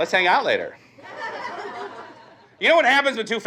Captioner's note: audience laughs